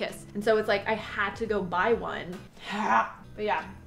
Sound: groans

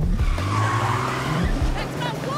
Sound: brakes squeal

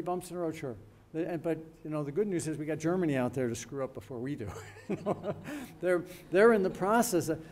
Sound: laughs

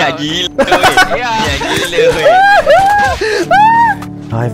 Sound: manly screams

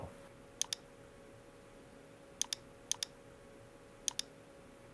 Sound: mouse clicking

